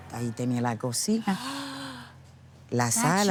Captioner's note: speaking Spanish; gasps